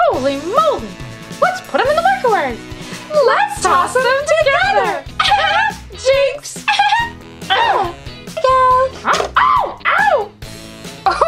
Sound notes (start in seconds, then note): 5.3 laughs